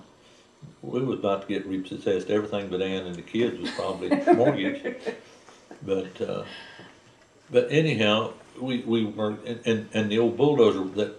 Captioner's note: laughter